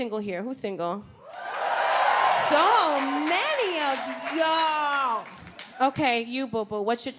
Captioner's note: audience applauds and cheers